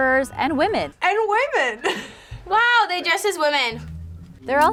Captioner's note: laughs